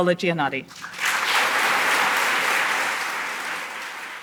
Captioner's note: applause